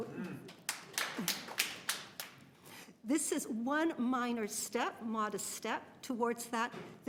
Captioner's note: applause